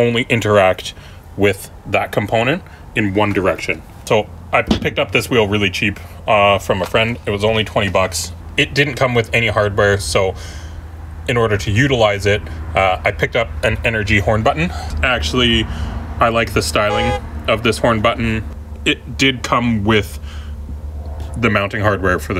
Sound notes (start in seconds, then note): 16.7 Cee Lo Green beeping horn